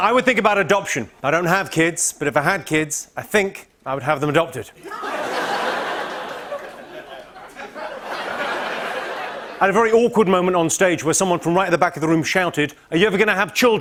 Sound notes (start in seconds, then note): 4.8 laughter; 7.1 laughter continues